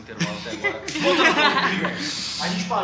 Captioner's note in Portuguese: risadas